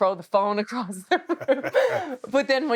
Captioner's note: Steve and Becky laughing